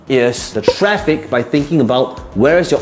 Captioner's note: bubble popping